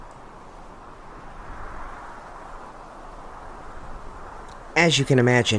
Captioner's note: sound of wind blowing through empty land